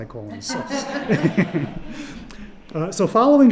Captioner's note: audience laugh